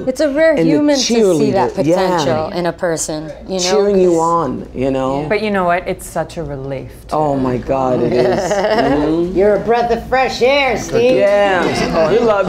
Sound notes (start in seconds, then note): 8.0 laughs